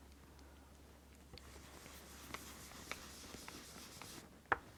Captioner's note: brush scrubbing